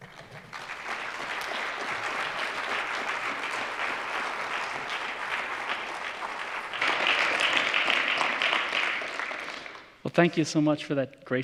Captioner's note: applause